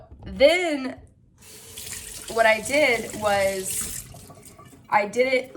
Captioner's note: water running